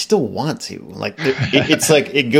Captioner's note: laughing